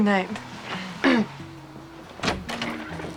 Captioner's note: clears throat